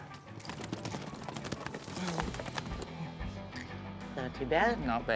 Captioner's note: hoof beats